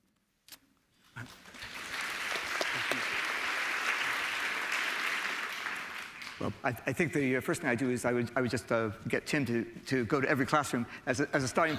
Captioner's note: applause